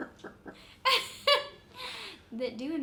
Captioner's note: laughs